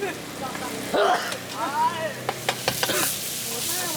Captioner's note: sneeze!!